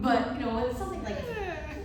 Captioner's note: laughter